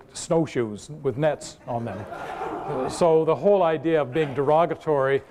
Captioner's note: laughter